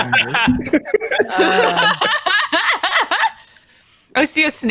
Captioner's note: laughing